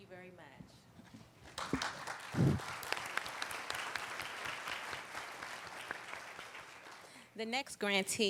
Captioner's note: applauding